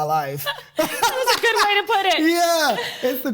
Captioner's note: both laughing